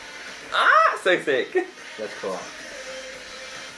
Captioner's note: exclaims